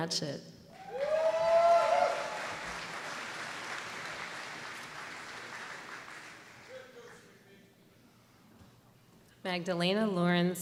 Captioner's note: applause